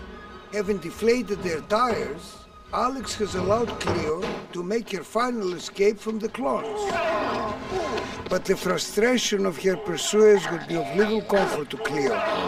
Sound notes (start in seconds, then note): 6.9 shouting